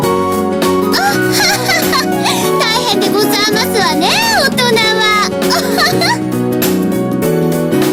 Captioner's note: giggling; giggling